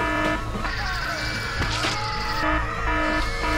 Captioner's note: alarm blaring; screaming continues; blaring continues